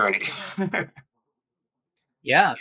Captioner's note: laugh